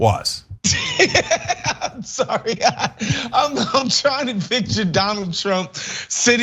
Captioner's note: laugh